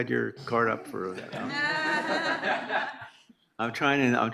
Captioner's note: everyone laughs